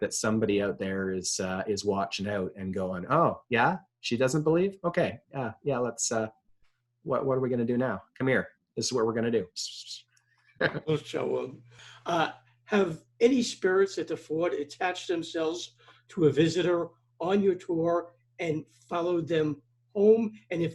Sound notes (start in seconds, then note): 9.8 mimics whispering; 10.6 chuckles